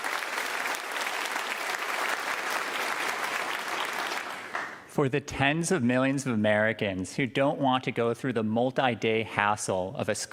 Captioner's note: applause